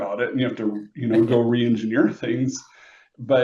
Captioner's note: laughs